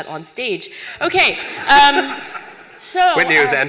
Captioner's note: laughter